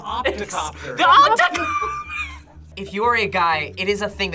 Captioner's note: wheezes